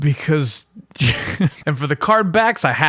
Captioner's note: chuckle